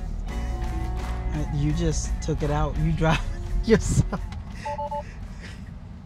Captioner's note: laughs